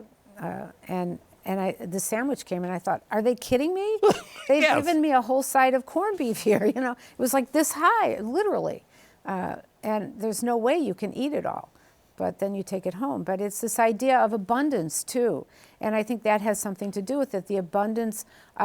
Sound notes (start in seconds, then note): 4.0 laughs